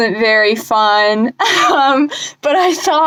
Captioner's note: laughs